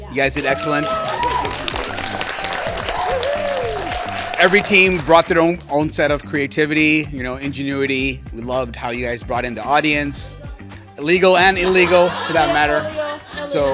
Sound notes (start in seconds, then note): 0.3 applause